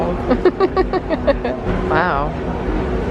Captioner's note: laughs